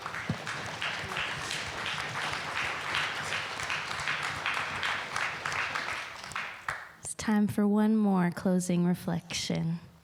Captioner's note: applause